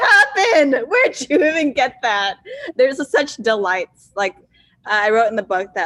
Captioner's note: laughs